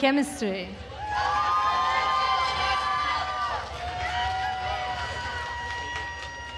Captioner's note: attendees cheering and applauding